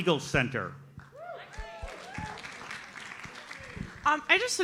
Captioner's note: audience applauds